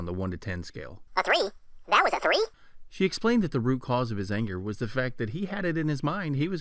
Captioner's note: funny voice; man's voice